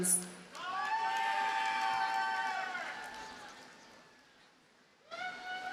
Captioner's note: audience cheers and applauds